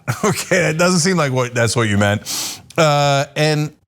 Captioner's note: laugh